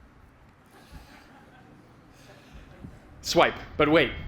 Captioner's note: laughter